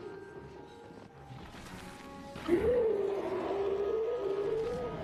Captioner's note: roaring